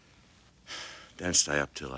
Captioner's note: sighs